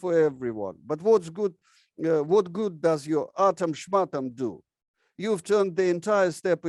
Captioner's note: speaks in foreign language